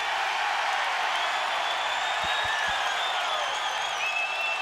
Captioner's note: crowd cheers